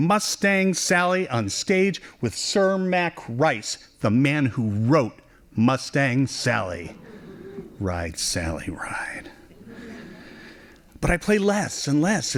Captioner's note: laughing